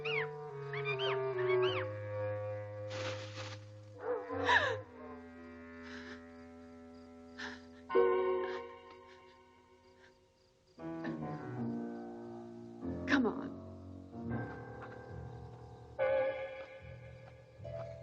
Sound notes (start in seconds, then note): 2.8 leaves rustling; 4.6 Priscilla gasps